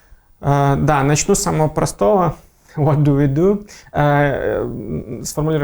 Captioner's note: laughing